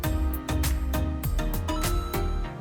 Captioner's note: ba ding!